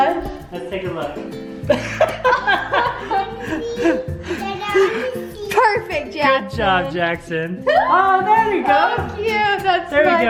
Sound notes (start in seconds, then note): 1.7 laughs